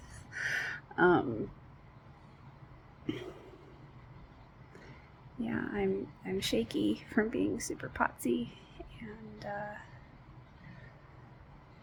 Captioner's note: chuckles